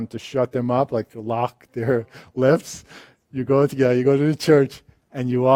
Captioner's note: laughs